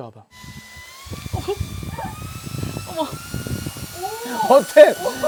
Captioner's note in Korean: 카메라를 때리는 바람소리 기대감 상승